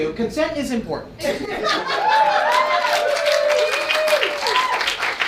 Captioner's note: audience cheering